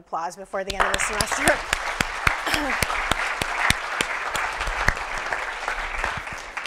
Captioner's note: applause